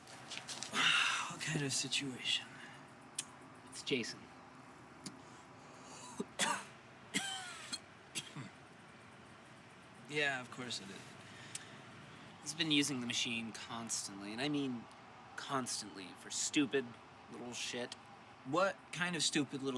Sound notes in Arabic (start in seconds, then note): 0.7 تتنهد; 7.1 السعال